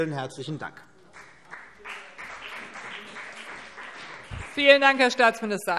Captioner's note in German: Beifall CDU und BÜNDNIS 90/DIE GRÜNEN